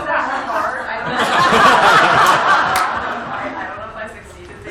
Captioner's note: laughter